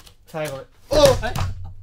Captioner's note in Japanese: テーブルを叩く音